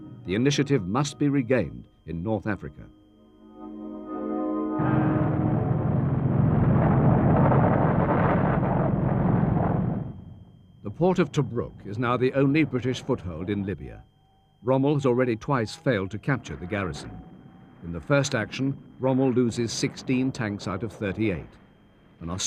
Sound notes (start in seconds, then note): 7.9 explosions